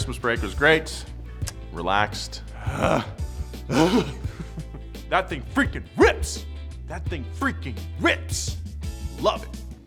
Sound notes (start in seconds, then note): 3.6 sighs